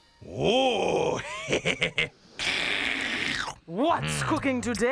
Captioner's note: slurps